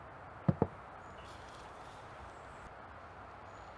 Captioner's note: knocking